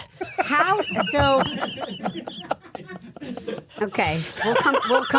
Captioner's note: all laughing